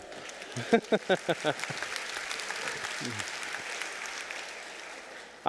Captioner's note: audience applauding